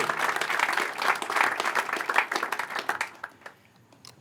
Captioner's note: applause